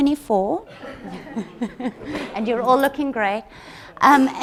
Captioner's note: all chuckle